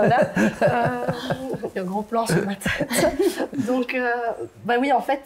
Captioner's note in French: rires; rire